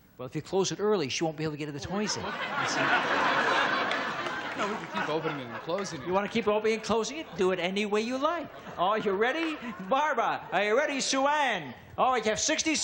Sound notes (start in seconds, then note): 5.5 audience laughs